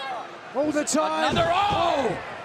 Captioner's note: crowd chatter